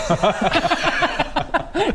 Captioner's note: worth-it laughter